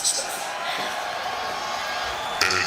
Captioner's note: crowd cheering